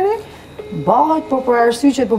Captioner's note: phone is ringing